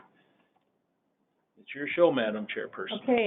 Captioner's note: silence